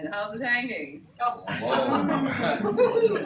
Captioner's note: laughter